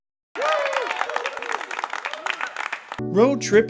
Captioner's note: weak applause